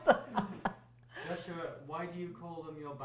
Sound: laughter

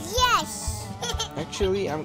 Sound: Eggward laughs with childlike innocence

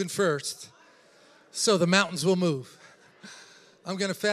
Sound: congregation repeats words

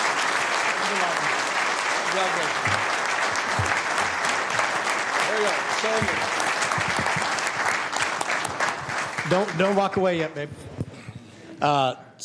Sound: applause

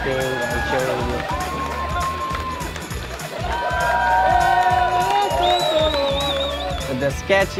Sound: cheering and clapping

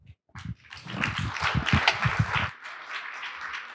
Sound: applause

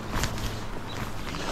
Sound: water splashing

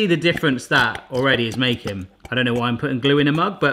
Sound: liquid gurgling

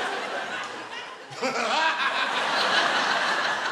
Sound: Bottom laughs

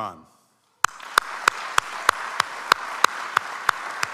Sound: audience applauds

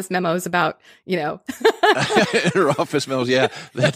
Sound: laughing

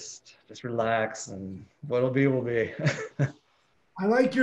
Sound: chuckles

